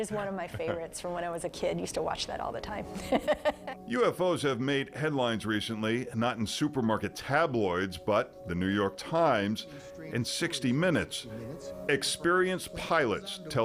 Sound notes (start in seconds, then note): 3.0 laughing